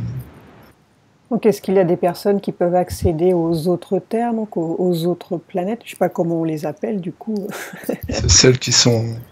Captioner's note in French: rires